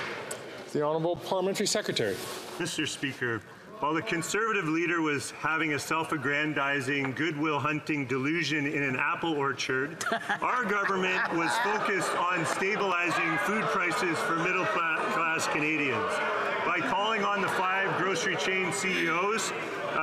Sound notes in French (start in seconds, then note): 5.1 voix de l'interprète